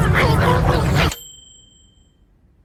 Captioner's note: ding!